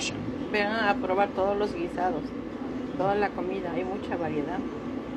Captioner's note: speaking in foreign language